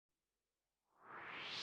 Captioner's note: swoosh